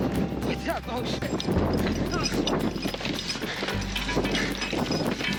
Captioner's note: talking drown out by wind blowing; metal equipment clanking and men breathing heavily